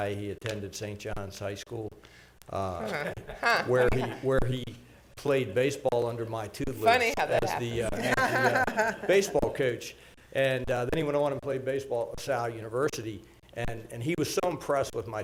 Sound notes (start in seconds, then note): 2.8 laughter; 7.8 laughter